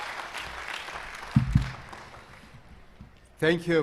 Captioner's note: cheers and applause